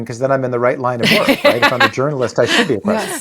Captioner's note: laughing